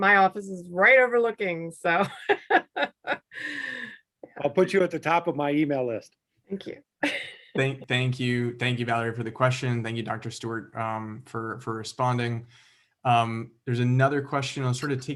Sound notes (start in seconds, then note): 4.5 laughter